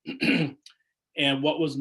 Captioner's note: clears throat